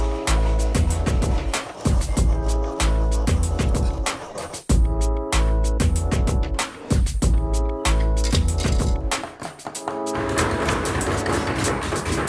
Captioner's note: chopping